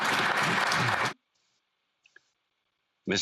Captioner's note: some Applause